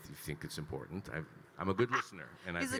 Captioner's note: laughing